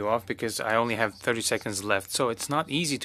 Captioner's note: speaking French